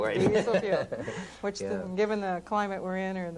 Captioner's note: laughter